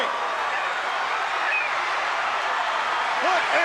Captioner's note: crowd cheering